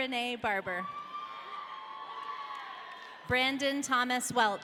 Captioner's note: audience cheering